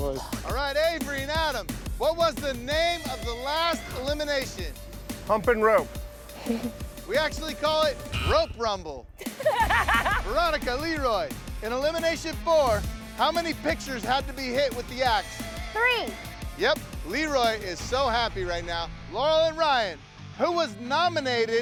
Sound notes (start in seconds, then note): 6.3 chuckles; 8.0 buzzer sounds; 9.2 laughter